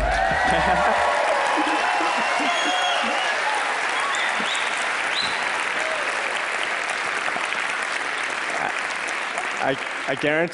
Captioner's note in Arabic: ضحك